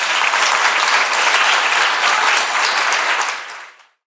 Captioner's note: audience applauds